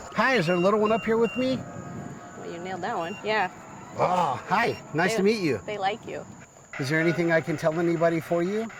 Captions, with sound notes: Hi, is there a little one up here with me? Well, you nailed that one. Yeah. [EMF beeps] Oh, hi. Nice to meet you. They like you. Is there anything I can tell anybody for you?